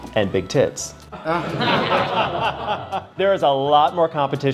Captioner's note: everyone laughing